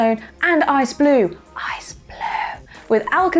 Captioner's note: whispers